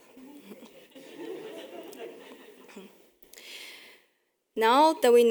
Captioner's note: audience chuckling